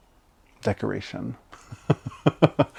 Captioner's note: laughs